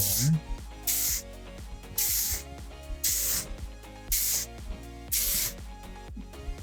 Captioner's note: upbeat music; spraying